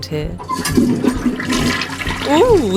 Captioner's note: toilet flushing sound